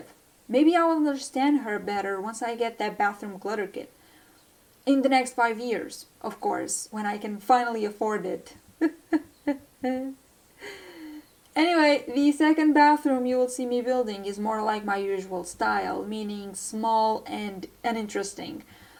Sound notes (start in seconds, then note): 8.8 laughs to hide the pain